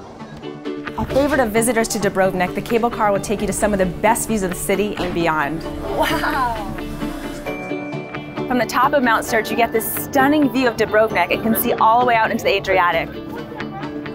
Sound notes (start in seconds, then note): 5.8 laughs